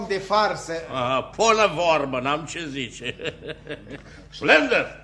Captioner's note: laughs